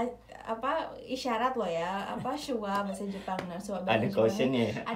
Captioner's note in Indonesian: ketawa